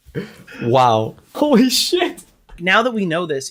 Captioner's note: laughs